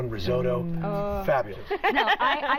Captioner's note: laughter